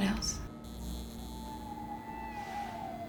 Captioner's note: lights buzzing